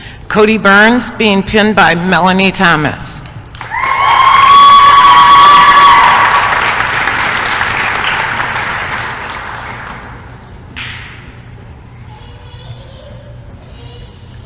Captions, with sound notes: CODY BURNS being pinned by Melanie Thomas [applause & cheering]